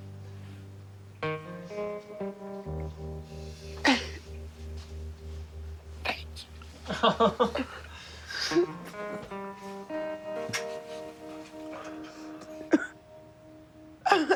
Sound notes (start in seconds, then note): 1.3 emotional guitar music; 3.8 crying; 6.6 group laughing; 8.6 sobbing